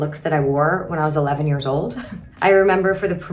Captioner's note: chuckles